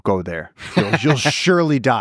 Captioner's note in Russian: Лекс смеётся